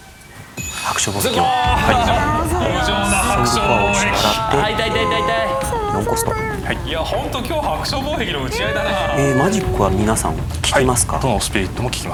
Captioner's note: audible sigh